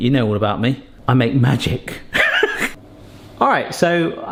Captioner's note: laughs